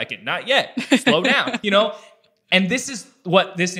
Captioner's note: laughs